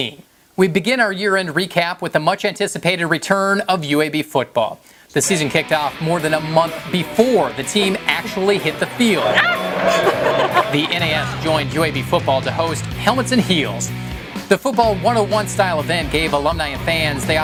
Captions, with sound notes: We begin our year end recap with a much anticipated return of UAB Football. The season kicked off more than a month before the team actually hit the field. ["Ah!" - laughing] The NAS joined UAB Football to host Helmets & Heels. The football 101 style event gave alumni and fans the opportunity